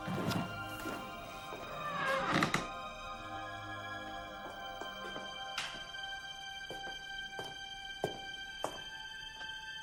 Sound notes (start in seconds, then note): 0.1 tense music continues; 1.6 door creaks